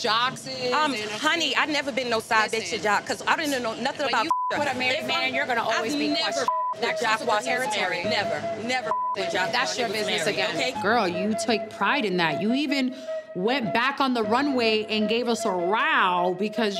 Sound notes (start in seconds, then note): 4.1 beep; 8.8 beep